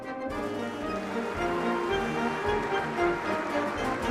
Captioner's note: applause